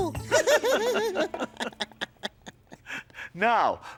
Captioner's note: laughing